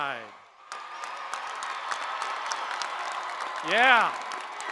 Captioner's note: crowd applauding